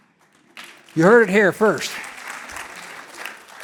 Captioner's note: audience applauding